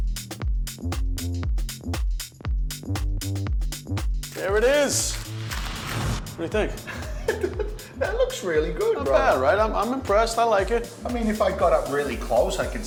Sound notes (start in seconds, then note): 0.1 rhythmic music; 6.7 laughing